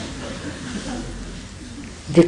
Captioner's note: laughter